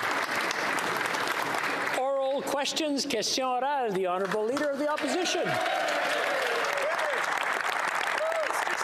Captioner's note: applause